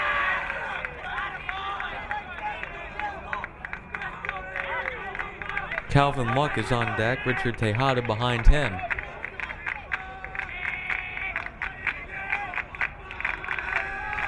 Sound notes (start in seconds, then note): 0.1 crowd cheering; 9.4 crowd clapping